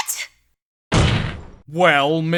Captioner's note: slam